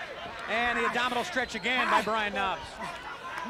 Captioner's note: crowd chatter